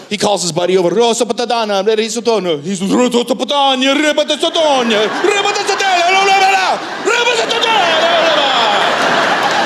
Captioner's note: italian impression